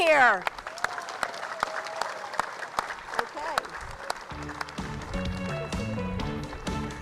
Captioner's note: applause